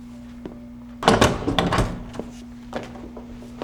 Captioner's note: door clicks open